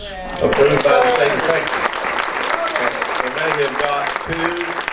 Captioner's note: audience cheers